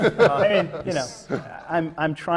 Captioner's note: laughter